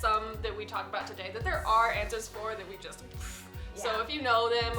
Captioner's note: blowing